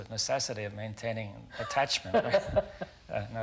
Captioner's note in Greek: Γέλια